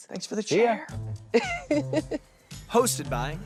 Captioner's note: laughs